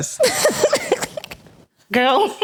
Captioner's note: laughing